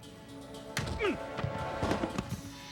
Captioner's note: muffled grunt